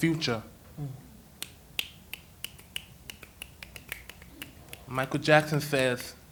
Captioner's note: snaps